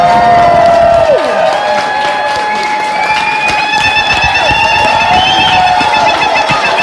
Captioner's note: crowd: loud applause and cheers continue... lalalalalalalala; crowd: loud applause and cheers wooooooo!